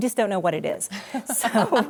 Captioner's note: laughter